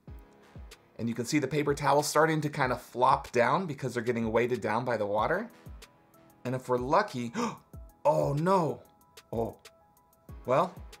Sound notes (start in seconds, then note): 7.3 gasps